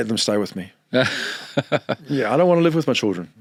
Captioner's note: laughing